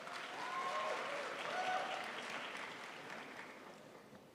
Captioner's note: crowd applauds